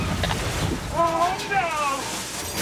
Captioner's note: car crashing